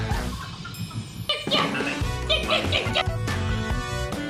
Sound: monkey sounds

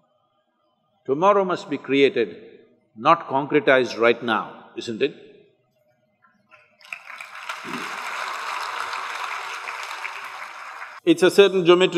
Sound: applause

